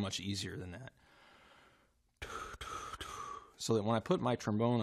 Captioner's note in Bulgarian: леко артикулиране на звук